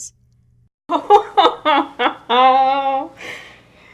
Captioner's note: laughter